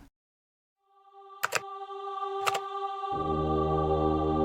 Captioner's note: keyboard sounds